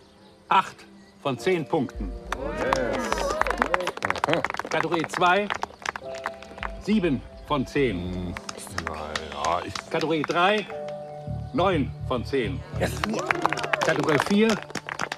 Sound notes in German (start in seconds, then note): 2.2 Applaus